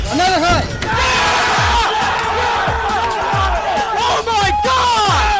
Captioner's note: cheerg